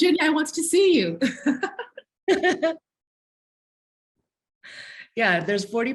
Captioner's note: laughter